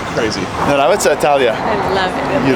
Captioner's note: speaking in Russian